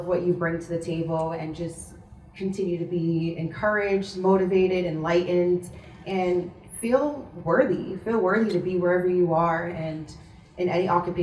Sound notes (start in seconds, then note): none